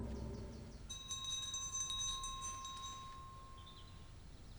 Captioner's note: bell chiming